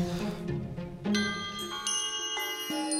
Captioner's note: Glockenklingen